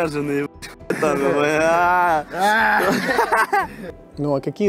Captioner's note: roaring and giggling